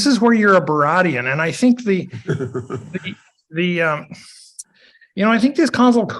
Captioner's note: chuckles